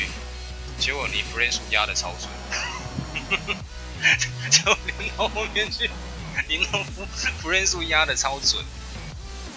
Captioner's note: laughs